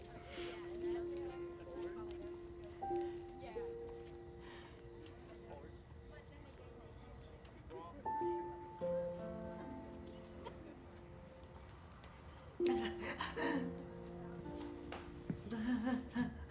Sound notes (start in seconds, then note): 0.2 Ms. Odell sniffling; 12.6 Ms. Odell sobbing